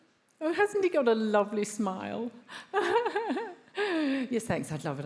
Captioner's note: laughs